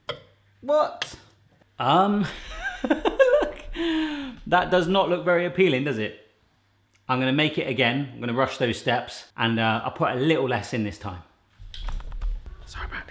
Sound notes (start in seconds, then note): 2.2 chuckling